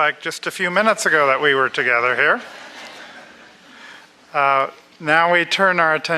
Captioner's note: laughter